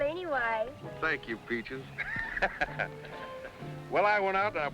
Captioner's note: laughs